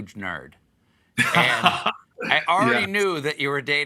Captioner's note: laughter